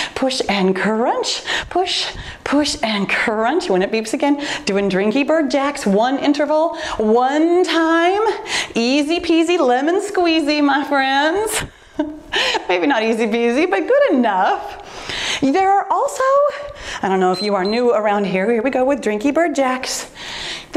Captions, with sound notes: push and crunch, push, push, and crunch. When it beeps again, doing drinky bird jacks one interval, one time. Easy peasy, lemon squeezy, my friends. Maybe not easy peasy but good enough. There are also, I don't know (timer beeps) if you are new around here. Here we go with drinky bird jacks.